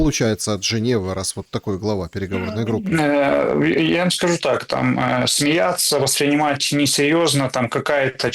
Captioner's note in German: lacht